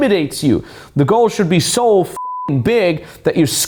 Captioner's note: beep